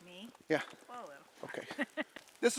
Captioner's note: chuckles